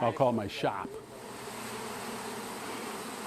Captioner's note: bees droning